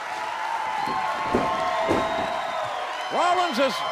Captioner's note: crowd cheering